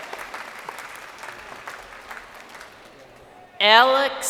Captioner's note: crowd cheering